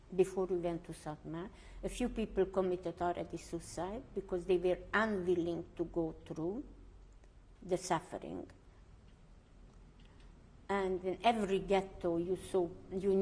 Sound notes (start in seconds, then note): 8.2 pauses for 3 seconds